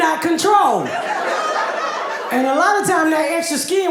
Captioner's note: audience laughing